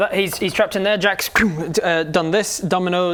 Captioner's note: pffwng